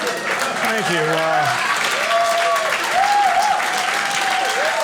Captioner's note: audience cheering